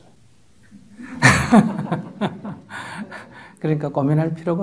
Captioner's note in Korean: 스님/질문자 웃음